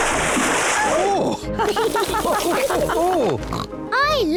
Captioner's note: all chuckle